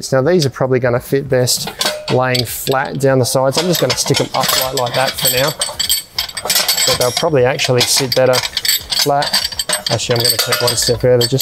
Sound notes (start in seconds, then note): 6.1 metal clanging